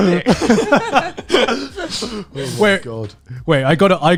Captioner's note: laughing